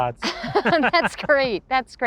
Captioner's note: both laugh